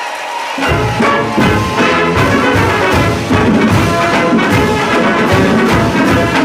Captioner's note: applause